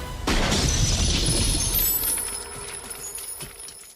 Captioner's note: dramatic music; gunshot; shattering